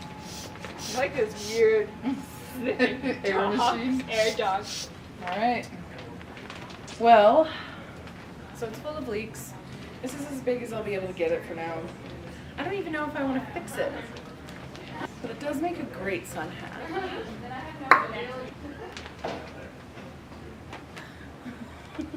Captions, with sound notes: I feel like a weird sniffing-air dog. Alright. Well. So, it's full of leaks. This is as big as I'll be able to get it for now. I don't even know if I want to fix it. But it does make a great sun hat. (tongue pop)